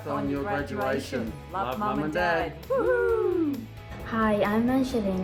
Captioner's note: whooping